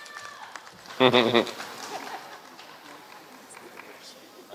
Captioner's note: applause